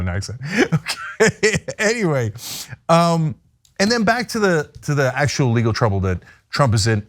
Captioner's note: laugh